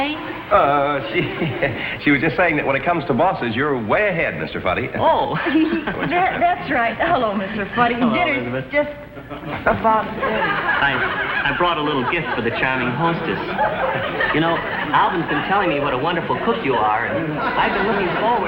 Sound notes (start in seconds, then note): 1.1 nervously chuckles; 5.4 chuckles; 14.1 audience giggles